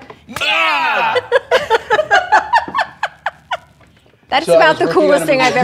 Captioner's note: laughter